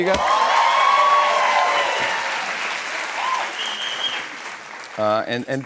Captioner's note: cheers and applause